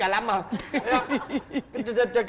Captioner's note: laughing